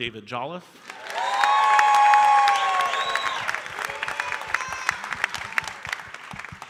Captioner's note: audience cheering and applauding